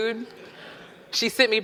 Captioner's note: audience laughing